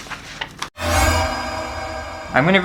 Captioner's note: alerting Noise!!